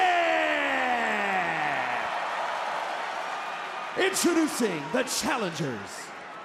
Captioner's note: crowd cheers